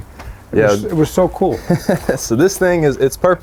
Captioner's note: laughs